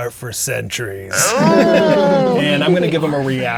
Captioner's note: players laughing